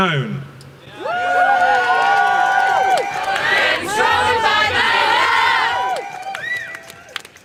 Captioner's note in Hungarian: Taps és éljenzés